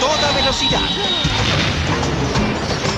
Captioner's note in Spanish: explosión